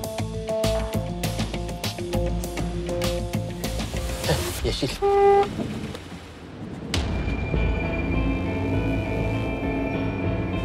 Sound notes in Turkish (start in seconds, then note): 4.9 Korna çalıyor; 6.1 Gerilim müziği